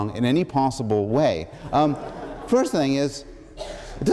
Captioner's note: laughter